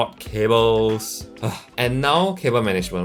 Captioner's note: sighs